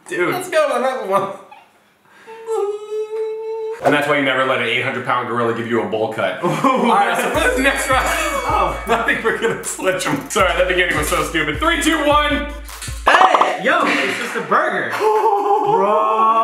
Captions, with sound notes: - Dude. - Let's go to another one. (moaning) And that's why you never let an 800 pound gorilla give you a bowl cut. Alright, so next round (laughing) I think we're gonna switch 'em. Sorry, that beginning was so stupid. Three, two, one. - Hey, yo, it's just a burger. - Oh!